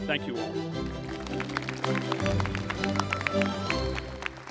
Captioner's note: applause